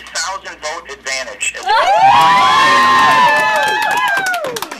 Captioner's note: cheering